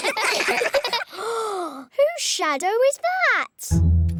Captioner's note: all giggle; gasps